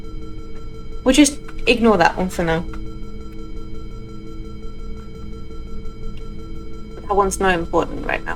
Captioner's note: alarm sounds